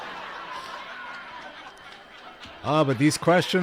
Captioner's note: laughter